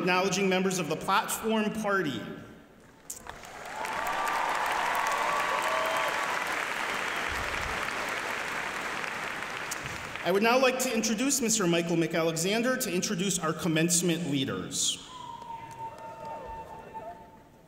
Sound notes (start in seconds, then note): 3.0 applause